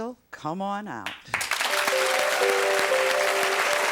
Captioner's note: audience clapping